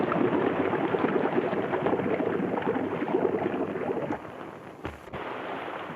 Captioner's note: water splashes and bubbles